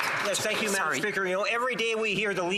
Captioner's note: some Applause